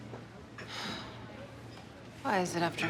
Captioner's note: sighs